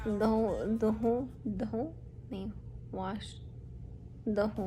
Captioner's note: in Urdu